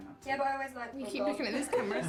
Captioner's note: laughing